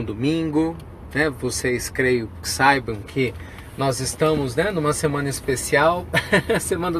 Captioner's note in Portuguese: risos